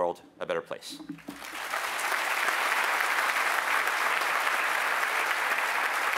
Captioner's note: applause